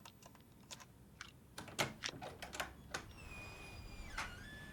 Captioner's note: door clicking